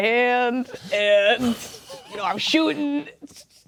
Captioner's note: laughing; players laughing